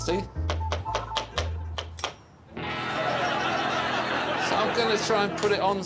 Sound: audience chuckling; hammer banging on nail; audience laughing

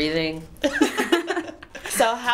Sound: laughing

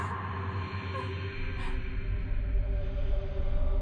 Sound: suspenseful music; sobbing

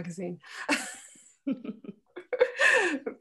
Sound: all laugh

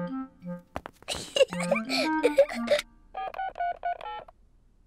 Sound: giggles

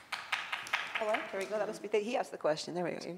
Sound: loud clapping

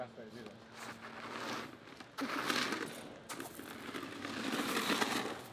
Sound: gravel crackling

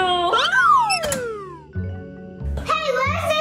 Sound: audio whistles

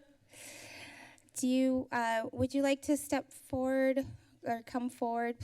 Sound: inhales

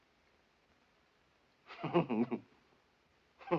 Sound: chuckling

